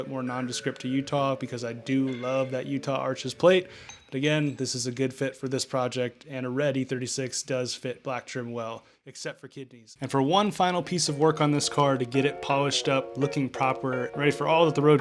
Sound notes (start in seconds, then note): 8.3 quite yelling